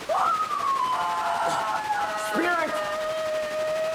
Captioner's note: static crackling; Isabel screaming